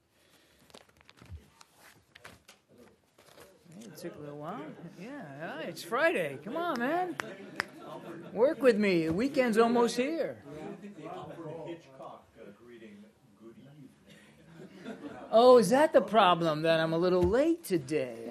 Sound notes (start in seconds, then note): 4.8 laughter; 14.2 laughter